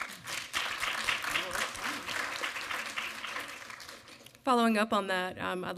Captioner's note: audience applaud